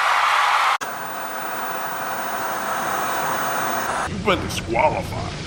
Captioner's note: audience cheering; static buzzing